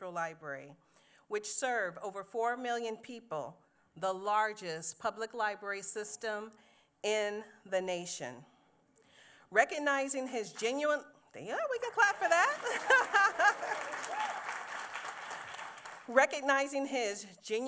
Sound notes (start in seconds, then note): 11.9 applause; 12.0 laughs